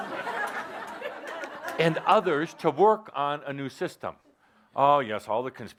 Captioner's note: laughter